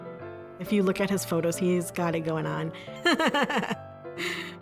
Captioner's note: chuckles